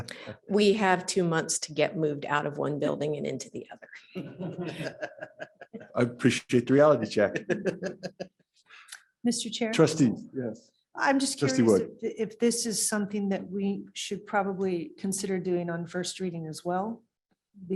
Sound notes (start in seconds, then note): 4.1 laughter